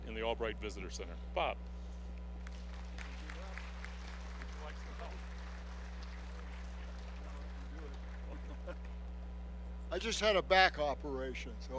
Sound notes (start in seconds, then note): 2.4 applause; 7.9 chuckling